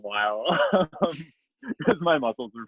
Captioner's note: laughs